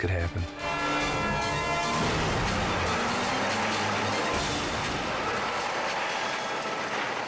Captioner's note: trailer crashing; train siren wailing